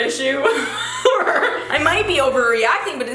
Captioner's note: giggles